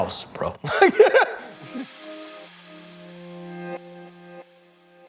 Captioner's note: laughs